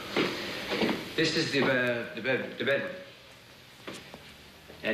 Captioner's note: stammers